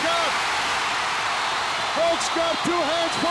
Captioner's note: crowd cheers